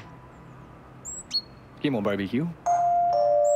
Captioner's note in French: On sonne